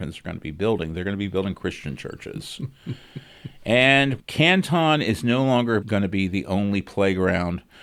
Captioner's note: laughs